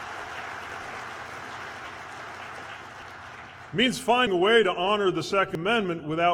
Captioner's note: applause